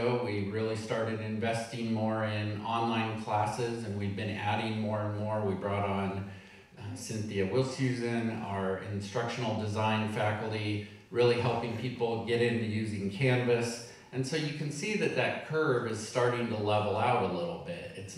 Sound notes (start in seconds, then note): none